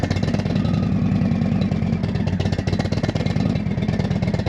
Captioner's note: motorcycle rumbling